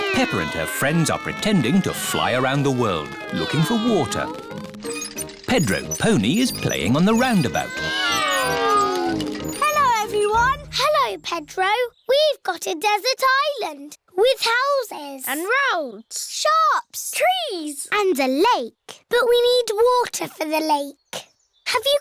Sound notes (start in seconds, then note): 4.4 all mimicking aeroplane sounds